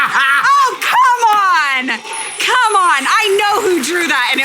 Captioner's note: loudly laughing